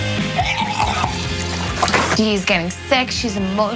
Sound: Deena vomiting

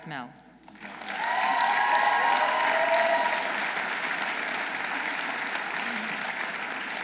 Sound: audience applauding; audience cheering

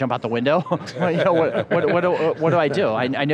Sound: laughter

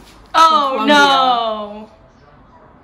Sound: sarcastic

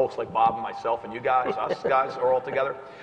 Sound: laugh

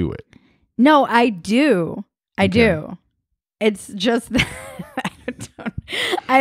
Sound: laughs

